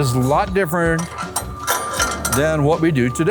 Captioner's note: machine clanking